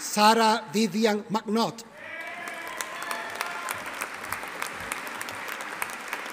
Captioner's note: audience applauding